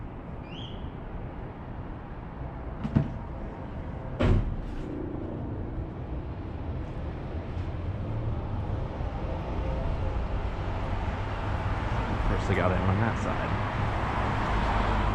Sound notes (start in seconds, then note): none